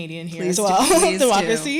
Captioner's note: chuckle